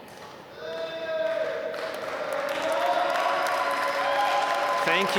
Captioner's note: applause